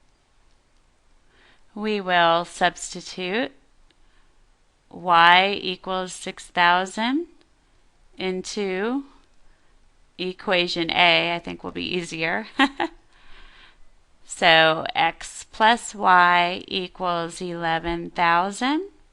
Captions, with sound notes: We will substitute Y equals 6,000 into -- Equation A I think will be easier. [Laughter] So X plus Y equals 11,000.